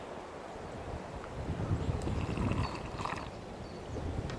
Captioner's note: intense slurping sounds